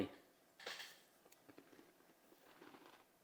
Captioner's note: object creaks; OREO crunching